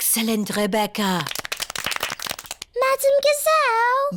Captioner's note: all clap